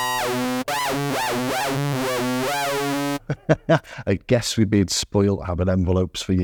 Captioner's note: beeping